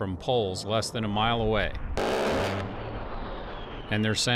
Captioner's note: roaring gunfire